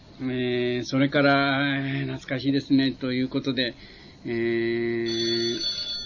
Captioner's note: telephone